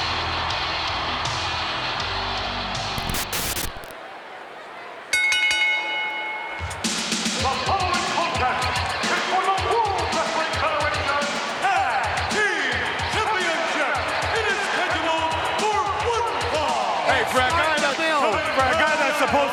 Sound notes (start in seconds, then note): 0.3 crowd cheers; 2.9 static hisses; 5.2 bell dings